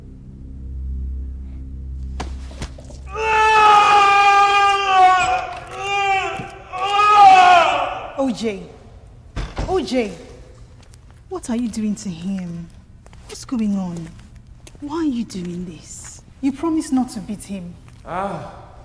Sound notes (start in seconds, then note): 0.0 tense dramatic music; 3.0 Governor screaming; 5.1 door unlatching